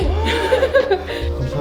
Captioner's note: gasps~~